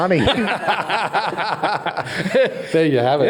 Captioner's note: all laugh